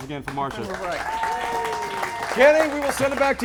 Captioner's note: crowd Clapping